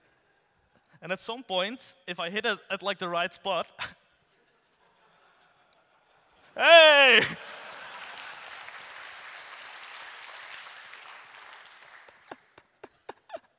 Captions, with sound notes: And at some point, if I hit it at like the right spot... Heyyy! [audience laughs and applauds]